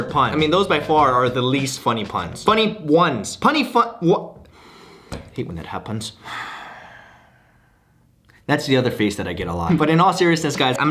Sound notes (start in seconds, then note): 6.2 frustrated sigh